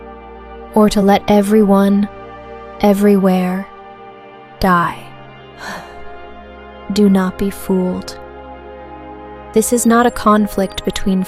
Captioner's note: sighs